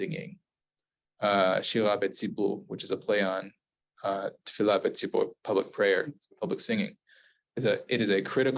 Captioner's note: Hebrew